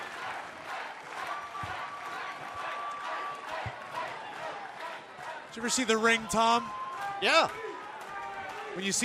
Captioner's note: cheers and applause; fans chanting